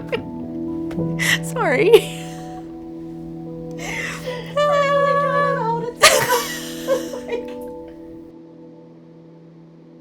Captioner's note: laughs